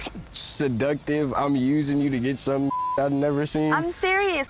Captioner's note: beep